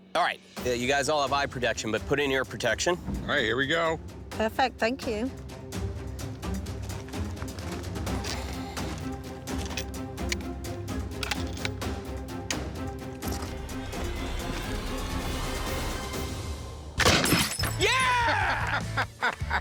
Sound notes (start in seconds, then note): 9.1 gun clicking; 17.0 gunshot; 18.0 laughs